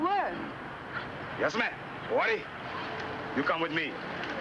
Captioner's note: speaking foreign language